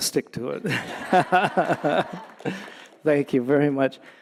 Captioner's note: audience laughing